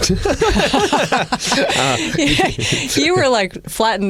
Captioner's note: laughter